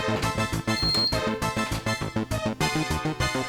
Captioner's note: lock beeps